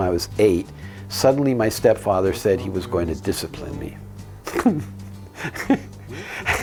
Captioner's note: giggles